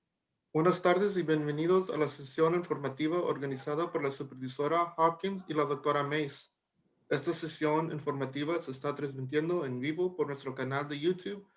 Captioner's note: speaking Spanish